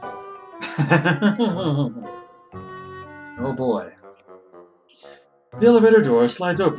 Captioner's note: laughs nervously